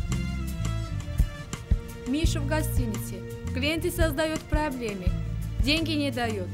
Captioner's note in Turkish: Rusça konuşuyor